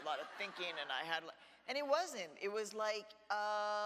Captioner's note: audience laughs